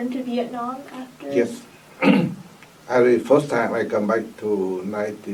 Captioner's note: coughs